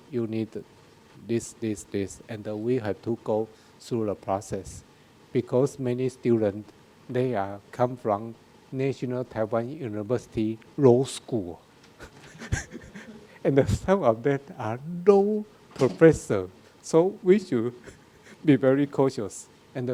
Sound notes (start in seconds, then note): 12.0 laughs